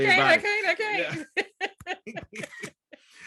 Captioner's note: laughter